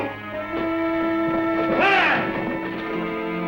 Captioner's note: yelling